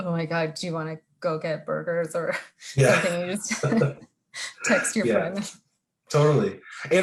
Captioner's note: both laughing